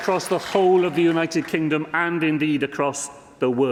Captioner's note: applause